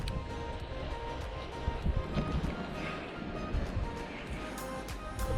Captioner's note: Sound of the waves